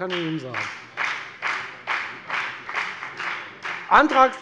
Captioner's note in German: Beifall bei der FDP